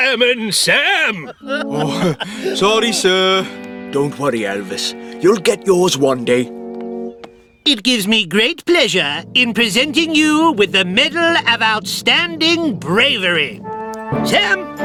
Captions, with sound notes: FIREMAN SAM! [ Tom Laughs ] OH, SORRY, SIR! [ Whispers ] DON'T WORRY, ELVIS. YOU'LL GET YOURS ONE DAY. IT GIVES ME GREAT PLEASURE IN PRESENTING YOU WITH THE MEDAL OF OUTSTANDING BRAVERY.